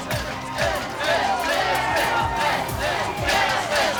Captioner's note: chanting